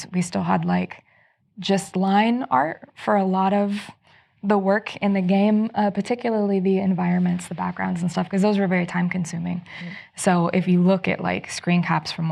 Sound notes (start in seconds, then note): none